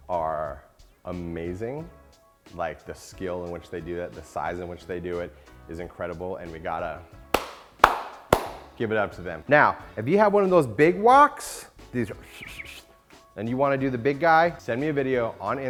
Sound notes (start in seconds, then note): 7.3 clapping; 12.3 faint whistling